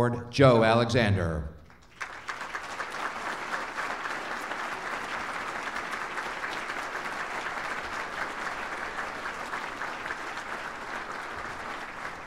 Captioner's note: applause